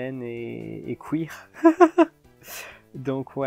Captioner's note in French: rire